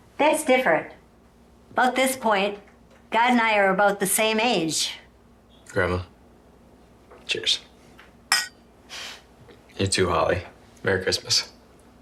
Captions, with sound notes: That's different, about this point, God and I are about the same age. - Grandma, cheers. (cups clinking) You too, Holly, Merry Christmas.